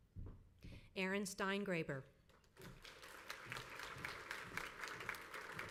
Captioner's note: crowd applauds